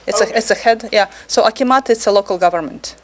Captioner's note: speaking foreign language